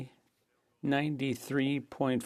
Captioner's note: speaking French